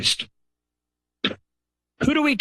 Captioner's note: pause